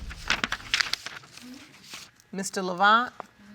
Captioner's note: paper rustling